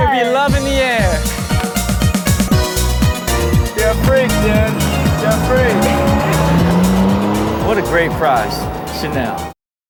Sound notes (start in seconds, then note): 2.7 bright music; 5.9 engine roaring